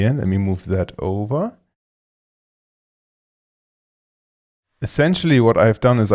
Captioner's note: mouse clicking